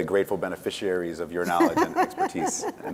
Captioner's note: laughs